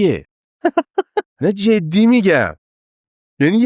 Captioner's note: laughs